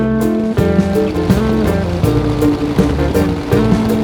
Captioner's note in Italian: Sound motore AR-59 di Marco